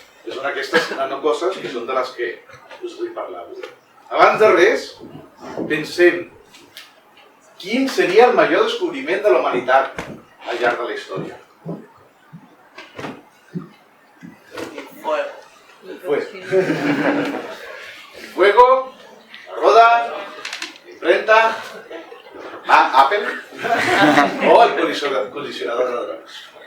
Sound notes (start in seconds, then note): 16.4 laughter